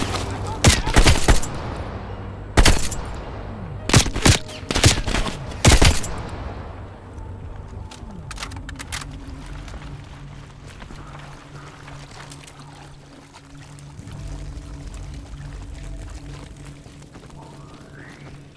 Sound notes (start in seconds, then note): 0.8 gun fires; 10.4 speaking in foreign language